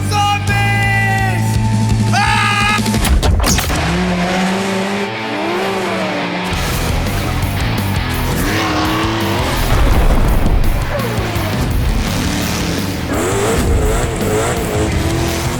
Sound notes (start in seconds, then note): 2.1 screaming; 2.8 click; 3.0 click. donk. thud. vroooooooooom; 3.2 click. donk; 3.2 click. donk. thud